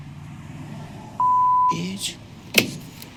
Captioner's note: beep